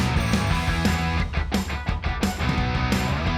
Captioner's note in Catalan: none